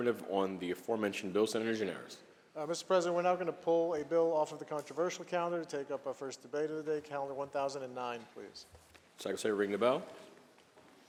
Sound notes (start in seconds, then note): none